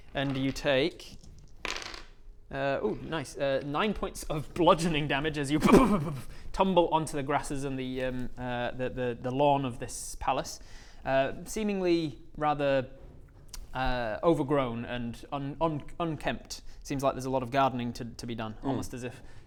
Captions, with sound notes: and you take ooh nice 9 points of bludgeoning damage as you *bbbr-bbrr-brrbbbbrrrr* tumble onto the grasses and the um the lawn of this palace seemingly rather uh overgrown and unkempt seems like there's a lot of gardening to be done, almost as if